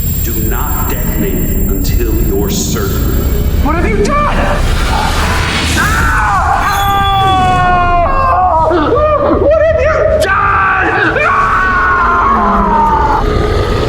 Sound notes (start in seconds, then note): 6.1 Uriel yells loudly; 11.4 Uriel yells loudly